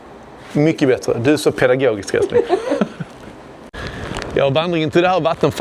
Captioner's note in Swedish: skratt